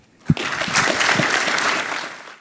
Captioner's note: applause